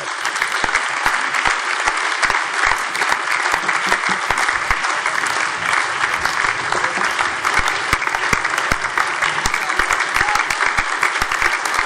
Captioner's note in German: Anhaltender lebhafter allgemeiner Beifall